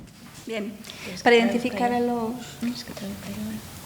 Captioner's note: speaking in foreign language